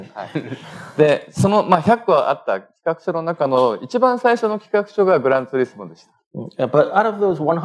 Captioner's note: speaking japanese